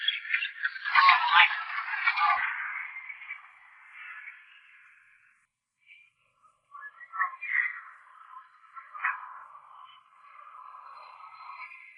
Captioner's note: chatter